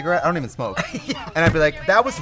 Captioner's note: Katya laughs